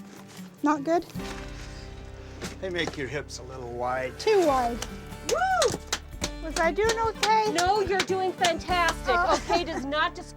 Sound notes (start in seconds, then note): 5.2 applause